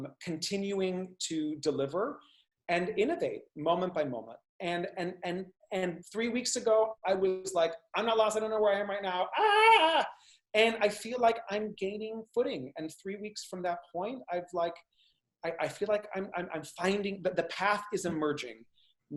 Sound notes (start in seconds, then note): 9.3 yells